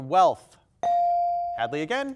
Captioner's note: buzzer dings